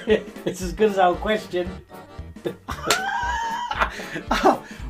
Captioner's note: laughing